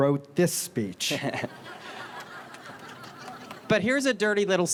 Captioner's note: audience laughs